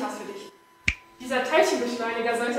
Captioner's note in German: Schnips!